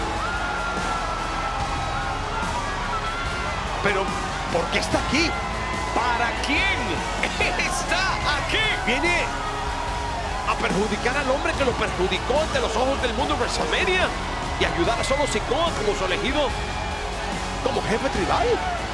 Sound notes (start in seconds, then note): 7.6 laugh